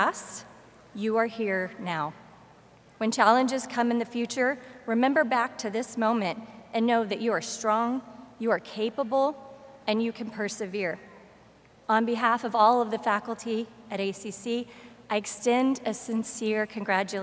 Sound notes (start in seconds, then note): none